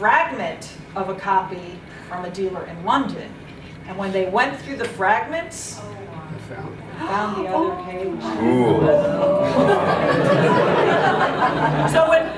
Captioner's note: sounds of amazement